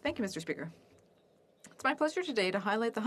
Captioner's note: speaking French